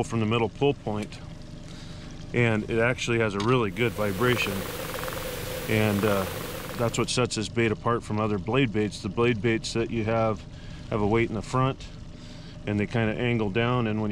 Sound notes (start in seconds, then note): 3.7 underwater gurgling